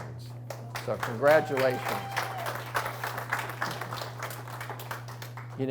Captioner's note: audience applauds